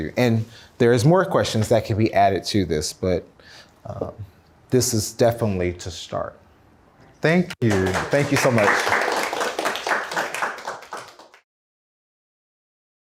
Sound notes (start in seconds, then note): 7.6 audience applauds